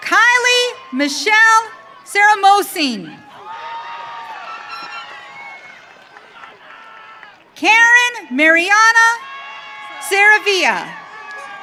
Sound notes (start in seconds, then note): 3.1 audience cheering